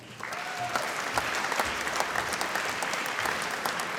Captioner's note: applause